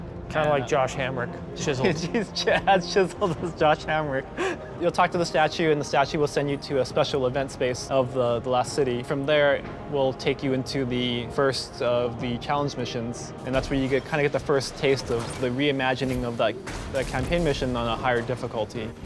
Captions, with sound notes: Kind of like Josh Hamrick? Chiseled? [LAUGHS] Ch-, yeah, as chiseled as Josh Hamrick. [LAUGHS] You’ll talk to the statue, and the statue will send you to a special event space of the Last City. From there it will take you into the, first of the challenge missions, and that’s where you get, kind of, get the first taste of, the reimagining of like, the campaign mission on a higher difficulty.